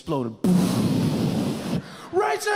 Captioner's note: mimics explosion